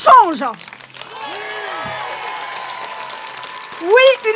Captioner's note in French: Applaudissements